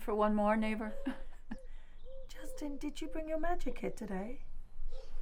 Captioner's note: chuckles